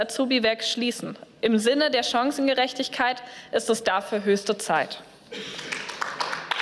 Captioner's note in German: Beifall